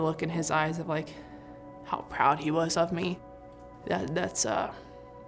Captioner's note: voice breaking